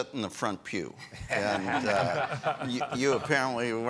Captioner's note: all laughing